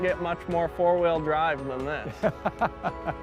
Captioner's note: laughter